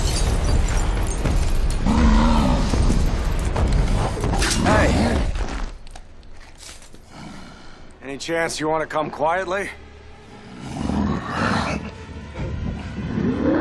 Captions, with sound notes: [growling] Hey. Any chance you want to come quietly? [growling]